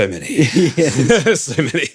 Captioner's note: laughing